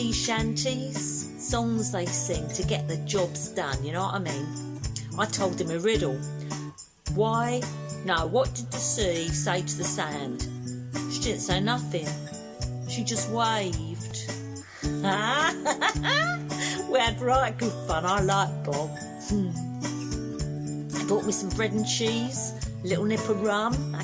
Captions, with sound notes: sea shanties. Songs they sing to get the jobs done. You know what I mean? I told him a riddle. 'Why... no... what did the sea say to the sand? She didn't say nothin' she just waved' (laughs) We had right good fun, I liked Bob. Bought me some bread and cheese. Little nip of rum.